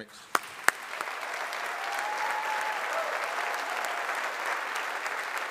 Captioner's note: audience applauding